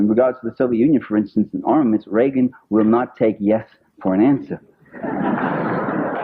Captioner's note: laughter